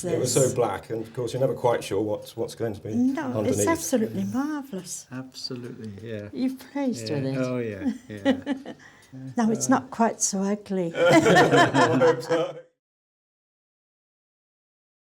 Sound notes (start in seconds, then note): 11.0 all laugh